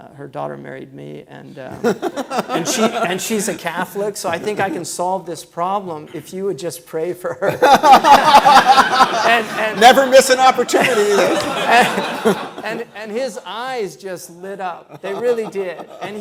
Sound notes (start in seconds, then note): 7.5 laughing